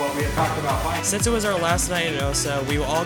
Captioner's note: voiceover